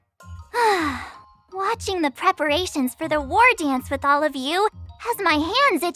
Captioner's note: sigh